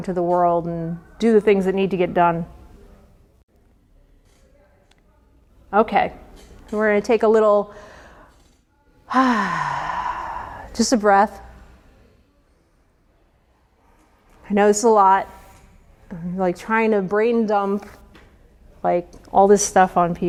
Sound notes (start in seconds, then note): 9.0 sigh